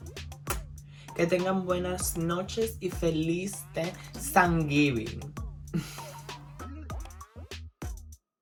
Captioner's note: dominican accent